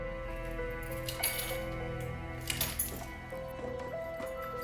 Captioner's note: keys jangling